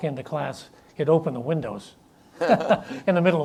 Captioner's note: chuckles